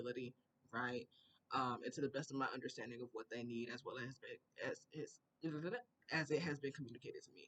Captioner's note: processing noises